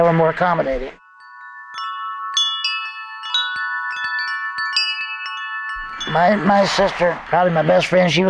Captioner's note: soft wind chimes